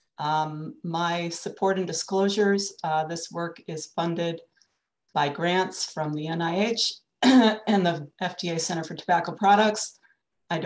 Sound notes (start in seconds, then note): 6.4 clears throat